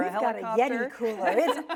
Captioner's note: laughs